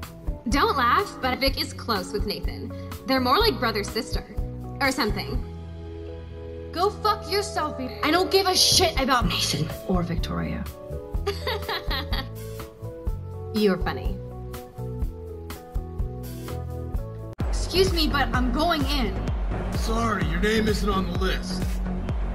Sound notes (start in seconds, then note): 11.2 laughs; 17.3 club music plays